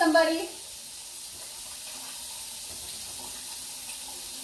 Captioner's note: water gushing